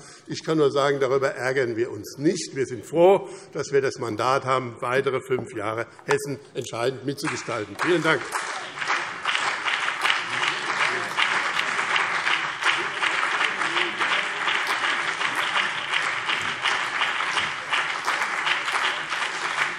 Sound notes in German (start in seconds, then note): 9.3 Beifall BÜNDNIS 90/DIE GRÜNEN und CDU